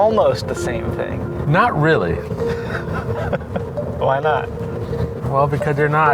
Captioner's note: laughs